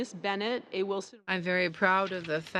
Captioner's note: speaking French